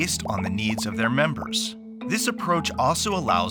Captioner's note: popping